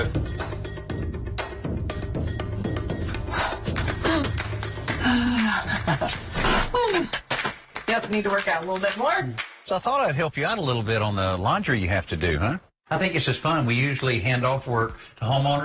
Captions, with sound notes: OK, we're good. Let go. Oh. Ha. [laughs] Hoo. Yep, need to work out a little bit more. So I thought I'd help you out a little bit on the laundry you have to do, huh? I think this is fun.